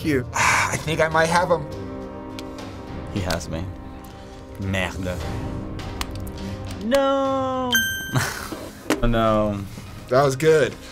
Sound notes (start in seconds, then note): 7.7 ding!